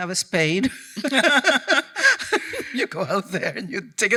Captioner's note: laughing